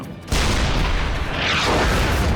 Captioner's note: 88 gun fires; shell explodes